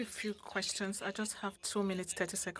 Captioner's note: speaking French